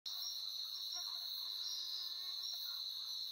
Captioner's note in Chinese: 蚊子的聲音